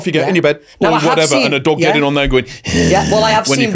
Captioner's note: growls